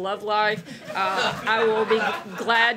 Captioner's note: laughter